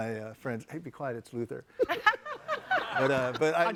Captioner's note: all laughing